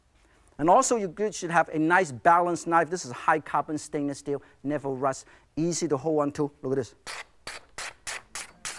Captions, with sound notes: And also you guys should have a nice balanced knife. This is a high carbon stainless steel, never rust, easy to hold on to, look at this (paper ripping).